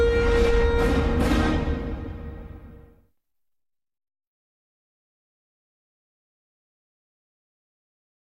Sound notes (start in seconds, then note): 3.5 silence